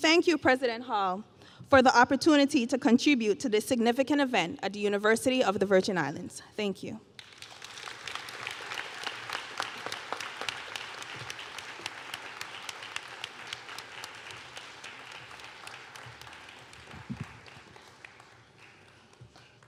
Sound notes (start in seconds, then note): 8.3 applause